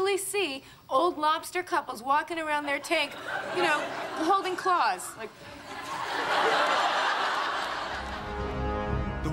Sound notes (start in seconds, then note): 6.3 audience laughing; 7.9 dramatic music